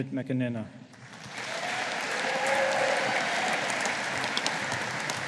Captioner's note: audience applauding